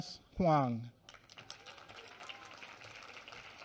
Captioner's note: applause